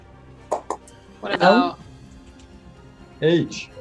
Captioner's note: knocking sound